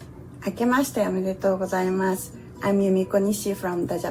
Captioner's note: speaking Japanese